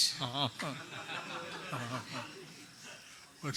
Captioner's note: laughter